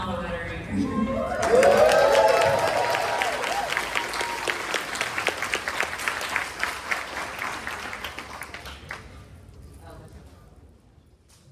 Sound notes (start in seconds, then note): 1.3 applause